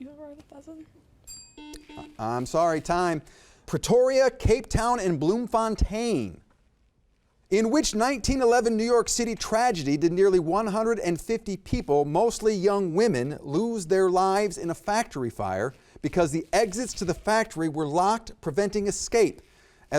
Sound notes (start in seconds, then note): 1.2 bell ringing